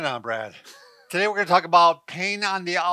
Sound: laughing

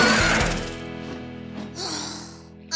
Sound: exhausted sigh

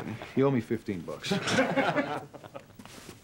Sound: laughing

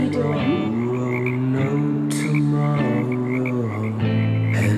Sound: frogs croaking

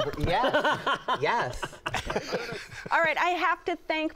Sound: laughter

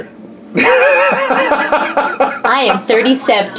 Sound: laughs

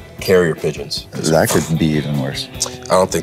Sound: mouths flapping noise

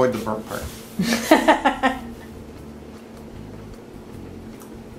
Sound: female laughing

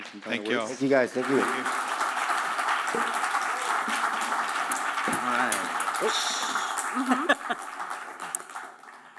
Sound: applause

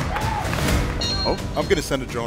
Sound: alarm sounds

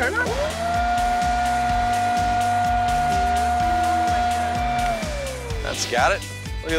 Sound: blower running

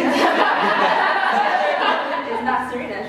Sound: laughter

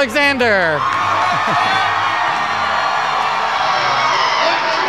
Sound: wild cheering

